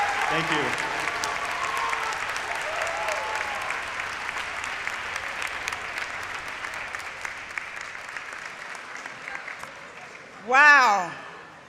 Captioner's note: applause